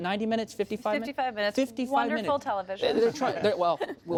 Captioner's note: laughter